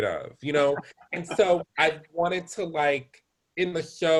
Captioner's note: laughter